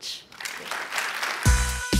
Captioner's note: applause